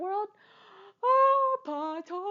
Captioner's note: gasp